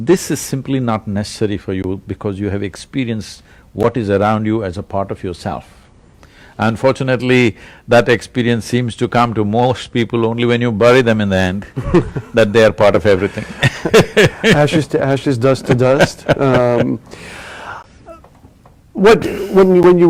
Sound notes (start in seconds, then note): 13.2 laughter; 15.3 Sadhguru laughs